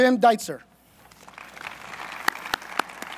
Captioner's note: applause